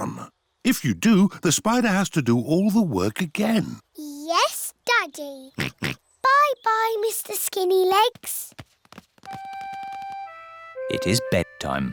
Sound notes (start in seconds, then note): 5.6 oinks; 11.7 owl hoots